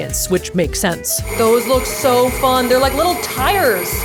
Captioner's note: mixer whirling